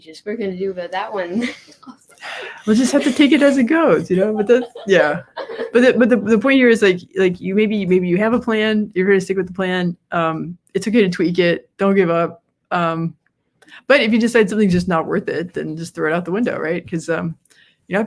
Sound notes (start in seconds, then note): 4.0 Inga's daughter laughs